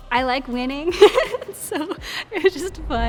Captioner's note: laughs